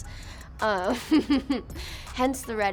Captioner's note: laughs